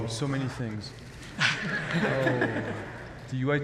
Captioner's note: laughter